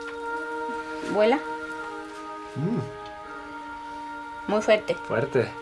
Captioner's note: speaking foreign language